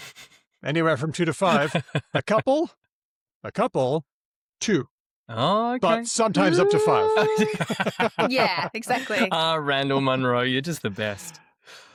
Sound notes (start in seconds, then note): 6.4 laughter